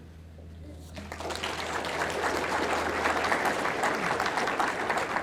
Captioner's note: audience clapping